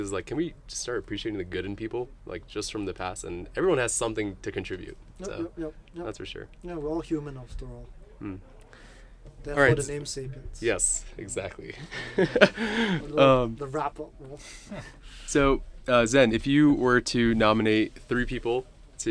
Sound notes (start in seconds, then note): 11.8 both chuckling; 12.1 indistinct chatters